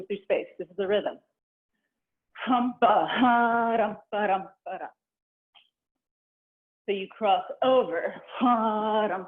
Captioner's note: vocalizing a rhythm